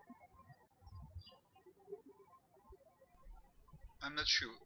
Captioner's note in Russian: птички щебечут